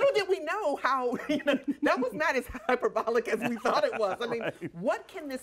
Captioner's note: laughter